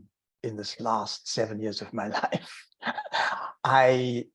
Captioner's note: laughing